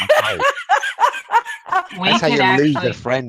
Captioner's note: laughs